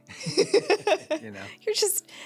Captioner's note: laughing